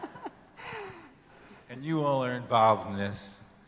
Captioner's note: laughing